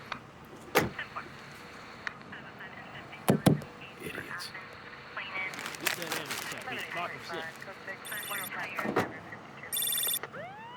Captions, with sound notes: [CAR DOOR CLOSES] IDIOTS. [CRUMPLING FLYER] [PHONE RINGING]